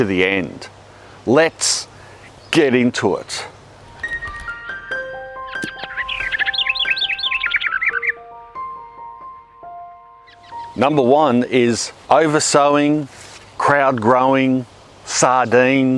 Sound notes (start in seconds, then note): 3.8 gentle music; 4.1 birds singing